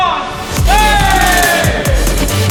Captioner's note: group cheers; upbeat techno music